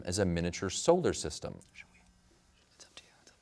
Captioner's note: whispers